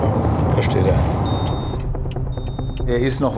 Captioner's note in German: Piepsen